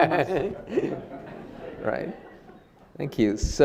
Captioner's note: audience laughing